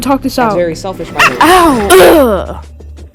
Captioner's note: teleportation sounds and Miles groans